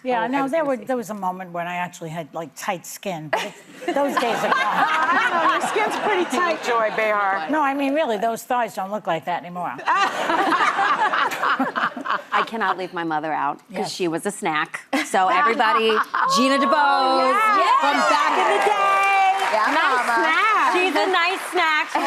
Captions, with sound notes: - Yeah, now there was a moment when I actually had tight skinned. Those days are gone. - My skin's pretty tight. - Joy Bay. - No, I mean, really, those thoughts don't look like that anymore. (laughing) - I cannot leave my mother out, 'cause she was a snack. So everybody, Gina de Boz, from back in the day. - Yeah. - She's a nice snack. - She's a nice snack.